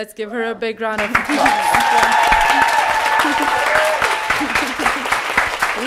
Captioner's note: audience applauding